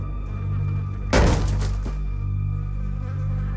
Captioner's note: loud thump